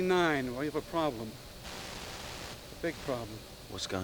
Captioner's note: static Continues